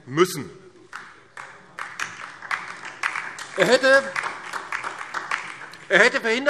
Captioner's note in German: Beifall DIE LINKE und vereinzelt SPD